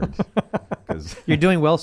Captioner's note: laughing